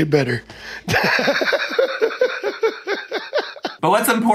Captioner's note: laughing